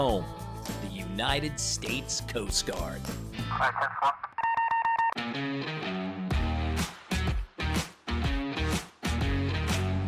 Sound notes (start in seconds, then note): 3.0 radio chatter; 4.8 upbeat music playing